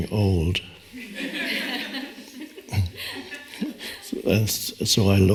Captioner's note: audience laughs